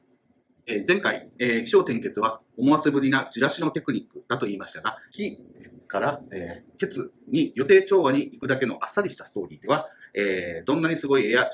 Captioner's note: speaking Japanese